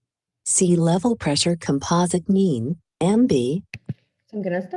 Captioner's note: automated Voice